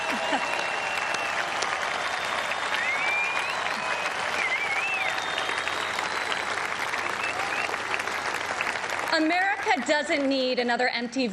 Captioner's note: cheers and applause